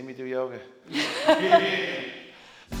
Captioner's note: laugh